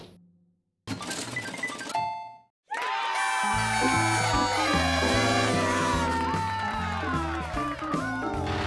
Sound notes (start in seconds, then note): 2.7 cheers and applause